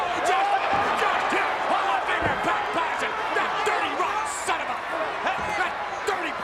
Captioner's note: announcer speaking faintly off mic